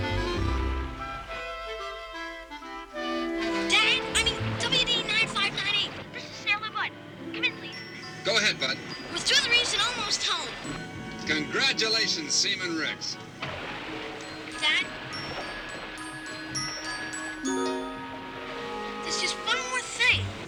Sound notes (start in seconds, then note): 5.8 Flipper chattering; 5.8 pleasant music